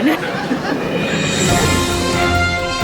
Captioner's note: audience laughing; orchestral music